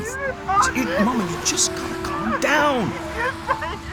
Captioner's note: Mama crying